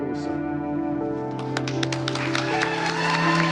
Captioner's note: cheers and applause